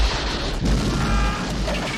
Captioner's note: rockets roaring; boom, crowd screaming; wood rattling, engine revving